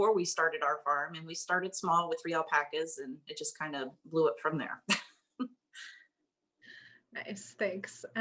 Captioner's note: laugh